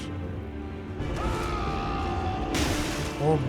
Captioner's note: clone braggart’s roar